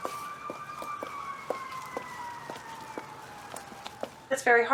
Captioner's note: multiple sirens wailing in the distance